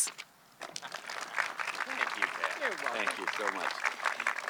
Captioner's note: audience clapping